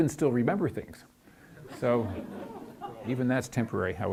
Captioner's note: audience laughs